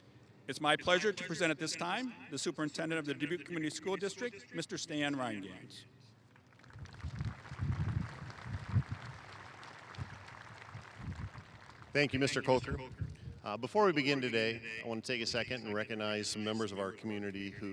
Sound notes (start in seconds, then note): 6.4 applause